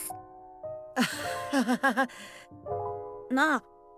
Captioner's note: awkward laugh